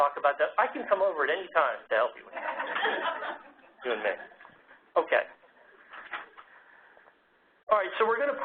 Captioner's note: laugh